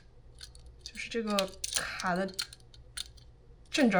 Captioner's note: locks